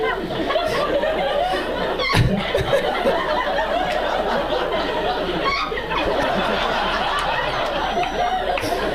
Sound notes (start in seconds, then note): 2.2 audience member shrieking